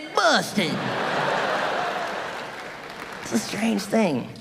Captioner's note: audience laughing